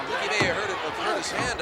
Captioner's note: hands thudding